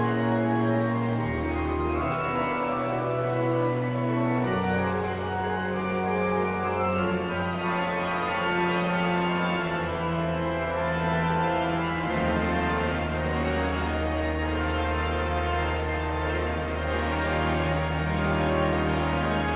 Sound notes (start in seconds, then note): 0.1 pensive organ music continues; 4.4 audience chattering continues; 14.9 pensive organ music continues; 19.4 audience chattering continues